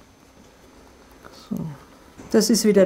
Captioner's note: quietly